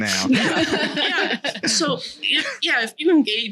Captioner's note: laughing